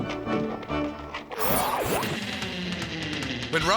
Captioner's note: energetic music; logo whooshes